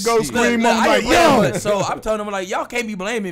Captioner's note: shouting over each other